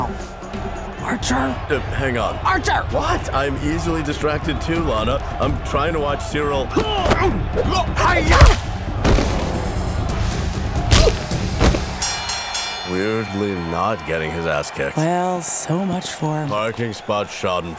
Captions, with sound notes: Archer. - Uh, hang on. - Archer! - What? I'm easily distracted, too, Lana. I'm trying to watch Cyril... - Hi-yah! [Bell dings] - Weirdly not getting his ass kicked. - Well, so much for-- - Parking spot schadenfreude.